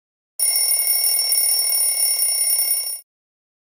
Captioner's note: alarm clock rings